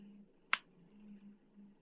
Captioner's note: click